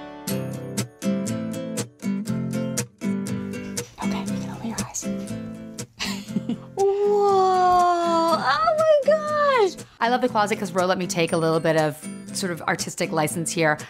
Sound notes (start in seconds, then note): 0.1 upbeat music; 3.7 whispers